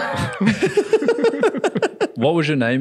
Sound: laughing

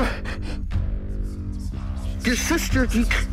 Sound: whispering

